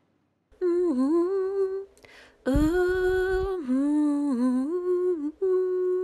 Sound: humming

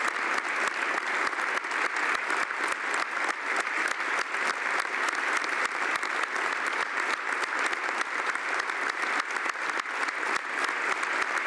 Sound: applause

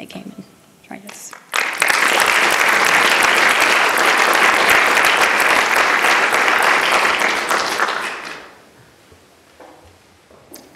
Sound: applause

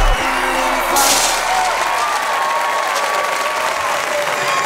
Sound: crowd cheering

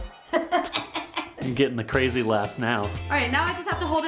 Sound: cackles

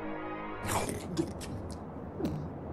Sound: quick chomp

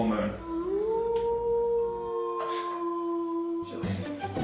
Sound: howling wolves

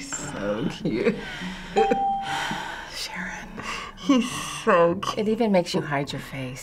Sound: sighing

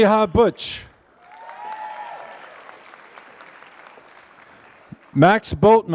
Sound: applause

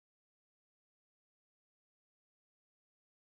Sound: none

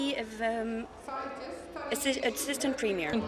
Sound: speaking in french

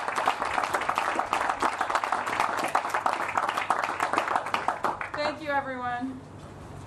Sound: applause

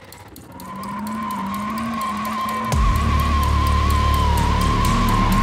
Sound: tires squealing

